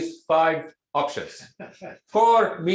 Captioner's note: laughs